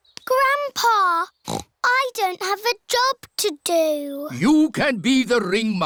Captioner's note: snorts